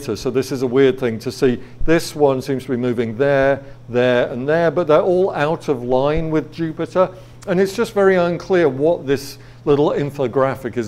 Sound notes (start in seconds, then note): none